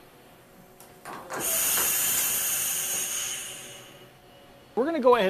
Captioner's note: machine working